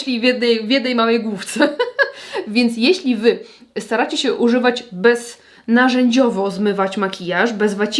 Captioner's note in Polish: śmiech